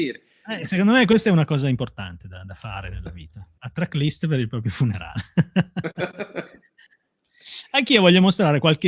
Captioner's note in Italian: risate